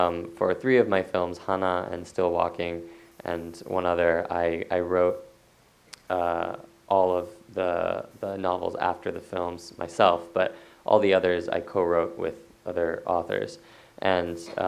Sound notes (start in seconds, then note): none